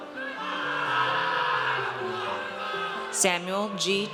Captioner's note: audience cheers